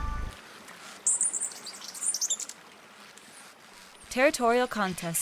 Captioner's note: silence